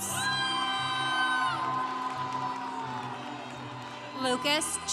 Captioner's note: congregation cheering